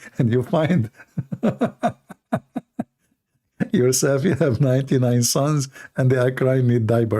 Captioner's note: Ketawa